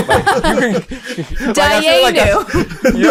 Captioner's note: all chuckle